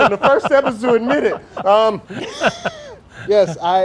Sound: laughter

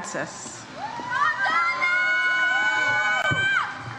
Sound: audience cheers

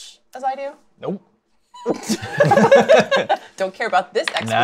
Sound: laughter

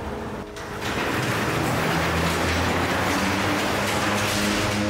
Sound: garage door rattles

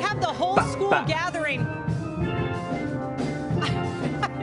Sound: laughter

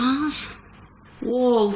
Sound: metre beeps

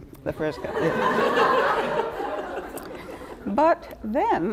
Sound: laughing

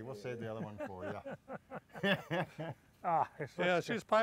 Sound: laughter

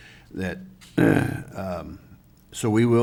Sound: clears throat

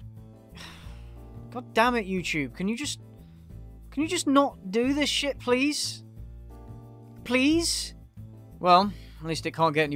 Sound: sigh

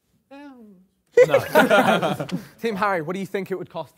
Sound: Sidemen laugh

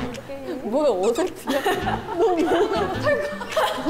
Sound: movement makes them laugh

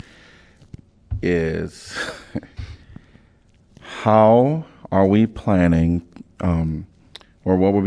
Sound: laughter

